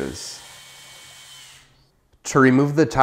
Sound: drilling

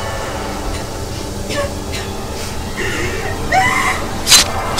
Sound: coughing; screaming; blade slicing

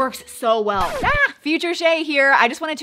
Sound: record scratching

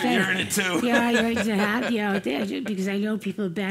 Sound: laugh

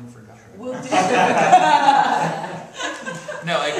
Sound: laughing

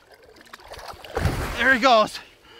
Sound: water splash

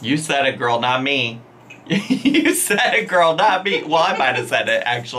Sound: laughing

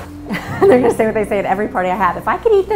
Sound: chuckles

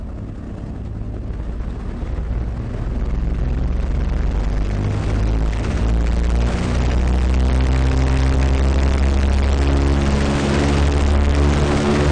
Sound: airplanes whirring

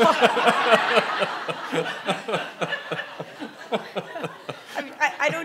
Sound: audience laughing

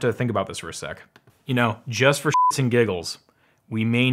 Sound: beeps

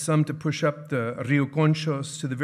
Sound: speaking in foreign language

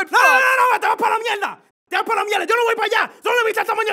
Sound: in Spanish

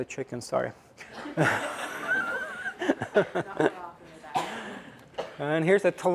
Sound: laughter

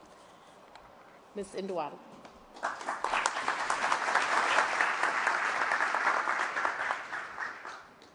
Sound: applause

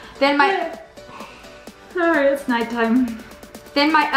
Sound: yawns

